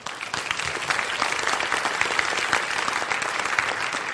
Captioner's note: applause